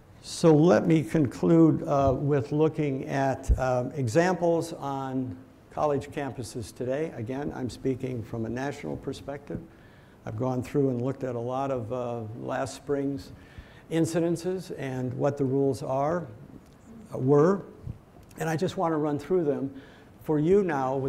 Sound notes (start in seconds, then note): none